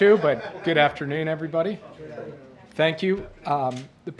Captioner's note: laughter